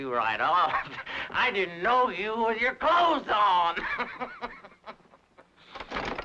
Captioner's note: laughs